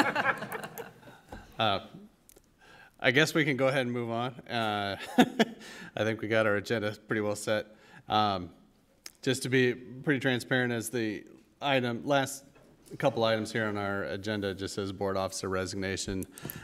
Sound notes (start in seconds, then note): 0.0 laughter; 5.4 laugh